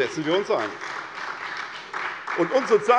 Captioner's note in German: Beifall SPD